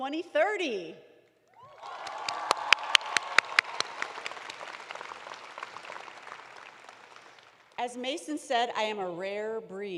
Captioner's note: applause